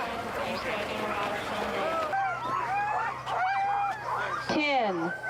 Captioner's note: dogs barking